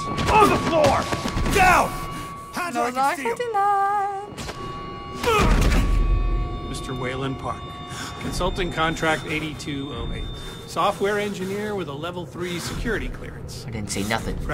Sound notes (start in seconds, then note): 5.0 grunts